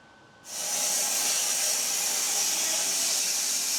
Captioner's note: saw whirring